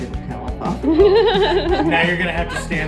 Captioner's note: laughing